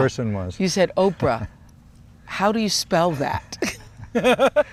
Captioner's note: both laugh